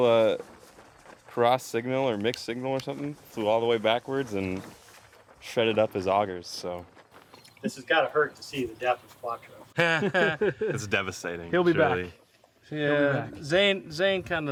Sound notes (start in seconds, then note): 9.7 nervous laughing